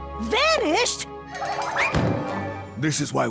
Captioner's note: thud